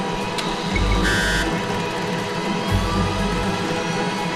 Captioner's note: device beeping